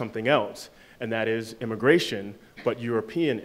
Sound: none

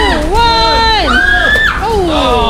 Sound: screaming

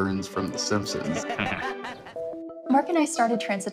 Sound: characters laugh

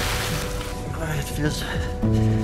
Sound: water splash; shivering

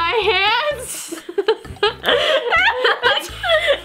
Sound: laughing

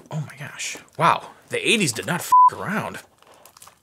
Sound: beep

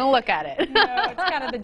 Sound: laughing

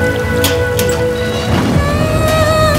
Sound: door opening

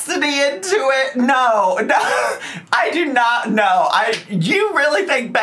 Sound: chuckles

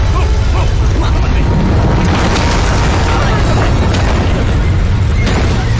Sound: loud rumbling; rocks falling

